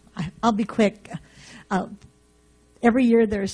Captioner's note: voiceover